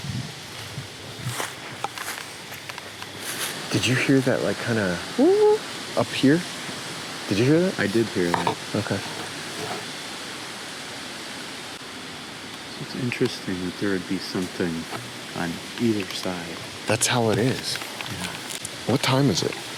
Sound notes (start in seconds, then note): 0.2 wind whooshing; 5.1 hoots